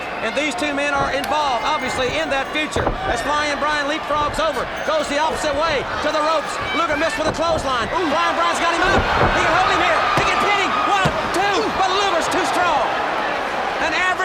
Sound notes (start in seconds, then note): 11.4 hands thudding